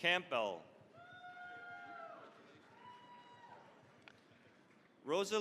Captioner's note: cheering, applause